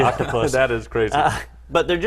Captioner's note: laugh